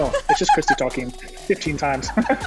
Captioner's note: laughs